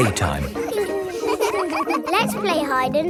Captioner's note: all giggling